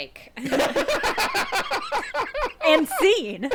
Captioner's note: everyone laughing